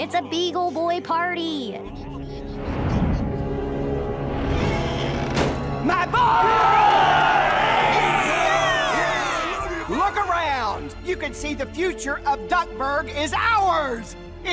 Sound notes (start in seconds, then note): 5.2 door slams; 7.9 cheering